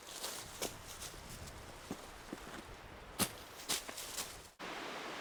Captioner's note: footsteps crunching leaves